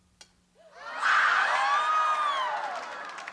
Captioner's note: screaming